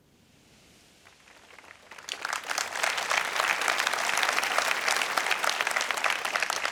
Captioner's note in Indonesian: Tepuk tangan